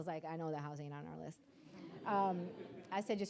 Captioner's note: audience laughing